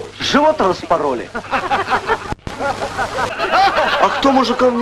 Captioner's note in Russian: смех